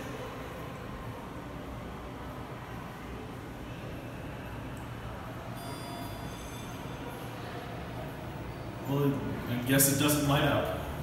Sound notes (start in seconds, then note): 5.5 elevator Chimes